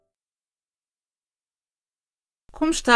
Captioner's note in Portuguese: Voz feminina